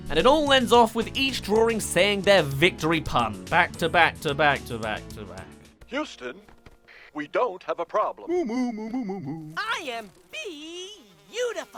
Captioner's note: sigh